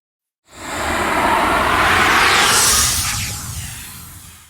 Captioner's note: air whooshing